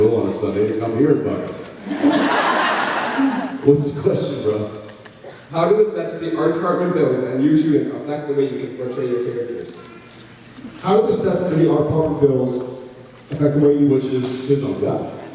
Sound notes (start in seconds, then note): 1.8 laughs; 4.4 laughing